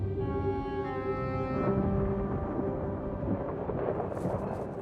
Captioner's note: thunder rumbles